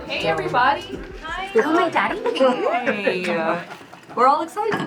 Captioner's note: employees chattering